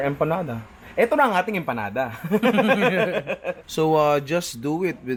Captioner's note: laughter